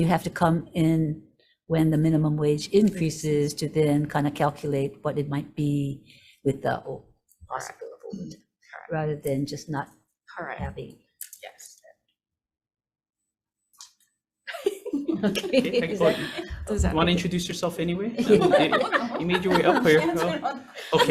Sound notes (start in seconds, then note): 14.5 group laughing